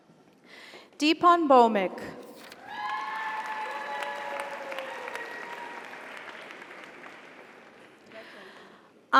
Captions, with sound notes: Deepon Bhaumik. (audience applauds) (audience cheers)